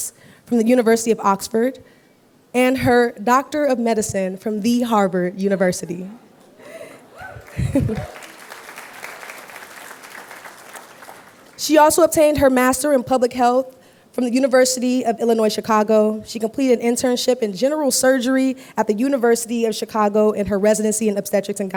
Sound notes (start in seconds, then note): 7.1 applause